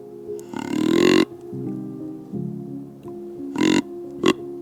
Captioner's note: horn sounding